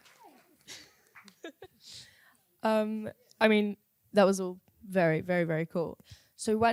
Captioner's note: chuckles